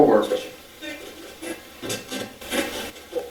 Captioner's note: static playback transmitting